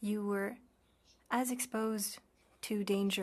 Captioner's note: speaking French